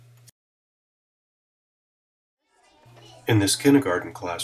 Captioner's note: chatter